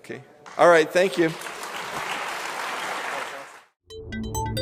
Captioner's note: applause